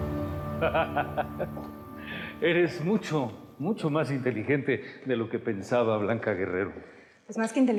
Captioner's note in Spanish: Risas